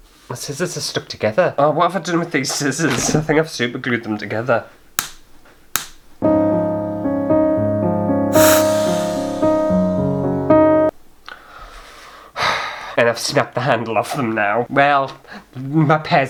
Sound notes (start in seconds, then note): 5.7 snap! snap!; 6.3 sad Music